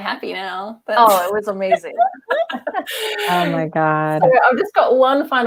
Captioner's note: laughter